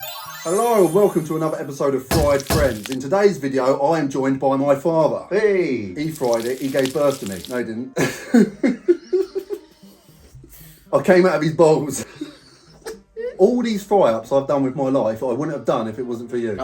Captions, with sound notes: - Hello and welcome to another episode of Fried Friends. In today's video, I am joined by my father. - Hey. - He fried it, he gave birth to me. No, he didn't. (both chuckling) I came out of his balls. All these fry ups I've done with my life, I wouldn't have done if it wasn't for you.